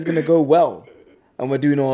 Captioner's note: laughs